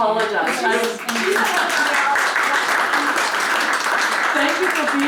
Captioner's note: applause